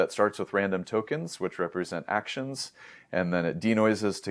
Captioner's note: inhales